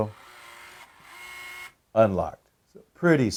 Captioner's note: buzzing